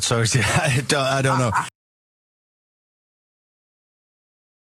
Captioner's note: laugh